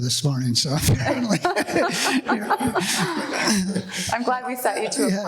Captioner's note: laughing